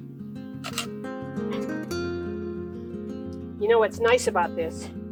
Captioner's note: camera clicking